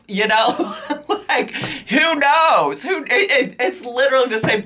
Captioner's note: laughs